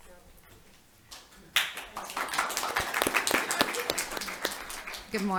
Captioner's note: applause